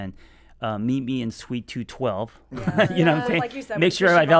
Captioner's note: laughing